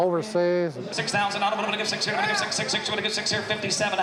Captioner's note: auction chant